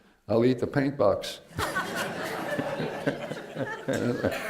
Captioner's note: laughter